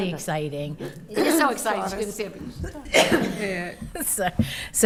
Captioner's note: coughs